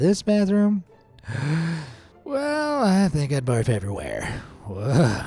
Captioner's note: deeply inhales